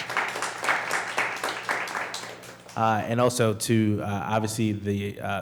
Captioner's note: applause